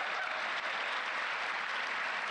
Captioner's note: applause